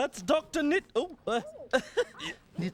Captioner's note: laughs